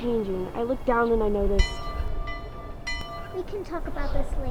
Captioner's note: school bell ringing